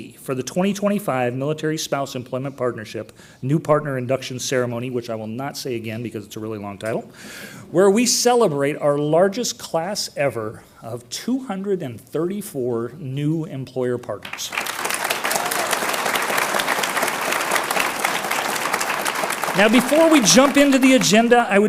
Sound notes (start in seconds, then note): 14.2 audience applauds